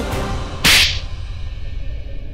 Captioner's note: Karan slaps